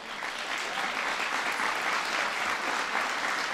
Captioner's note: applause